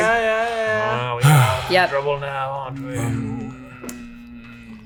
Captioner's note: sighing